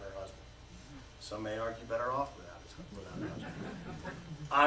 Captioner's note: laughter